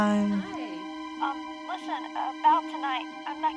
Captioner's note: on phone